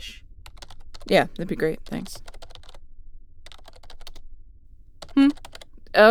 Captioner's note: Ace begins typing on a keyboard